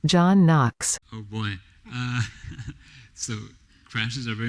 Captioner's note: laughs